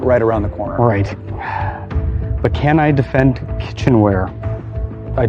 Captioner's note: sighs